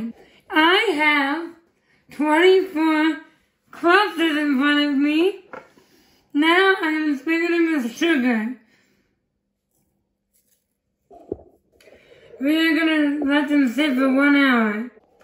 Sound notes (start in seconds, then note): 10.0 shaking